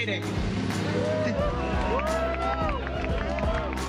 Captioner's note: cheers and applause